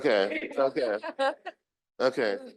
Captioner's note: group chuckling